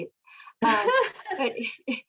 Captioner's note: laughs